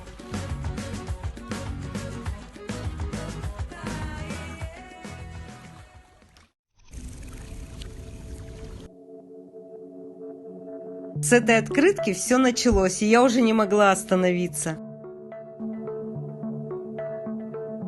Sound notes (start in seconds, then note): 6.9 rain